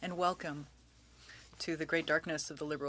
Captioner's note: speaking french